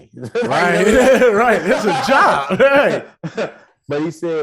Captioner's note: hosts laughing